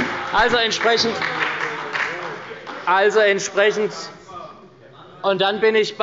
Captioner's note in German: Beifall bei der SPD – Zurufe von der CDU